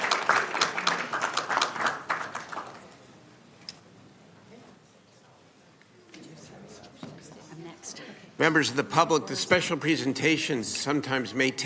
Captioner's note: applause